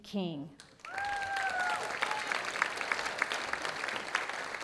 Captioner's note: audience applauding